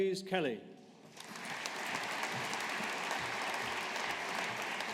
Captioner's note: audience applauding